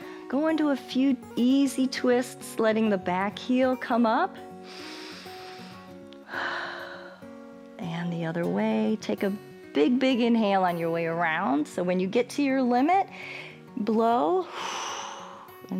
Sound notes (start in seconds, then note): 4.6 inhales and exhales; 14.4 exhales